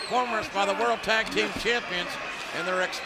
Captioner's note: fighters grunting